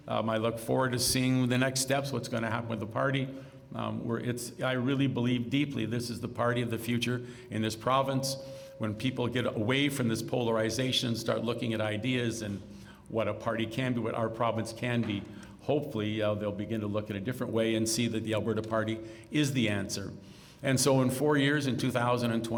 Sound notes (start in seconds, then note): none